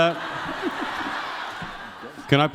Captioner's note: crowd laughs